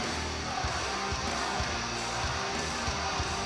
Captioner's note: fans chanting